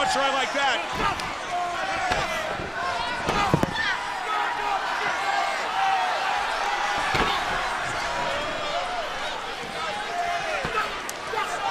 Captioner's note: crowd chatter